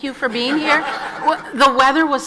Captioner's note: audience laughs